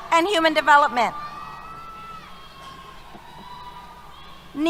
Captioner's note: cheers